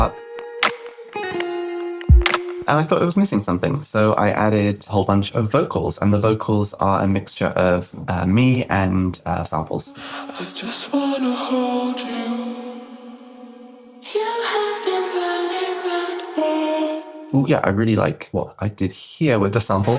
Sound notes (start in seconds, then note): 10.8 breathy